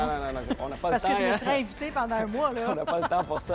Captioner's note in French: rires